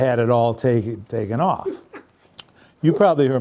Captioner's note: laughs